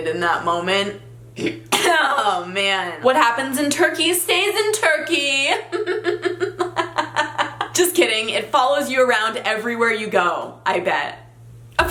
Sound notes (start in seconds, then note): 5.6 laughing